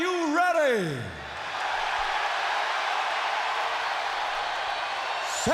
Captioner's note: crowd cheering